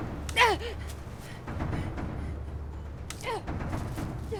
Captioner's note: Mackenzie grunting